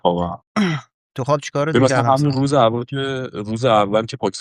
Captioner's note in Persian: گلویش را صاف می‌کند